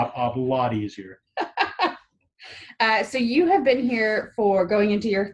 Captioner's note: laughs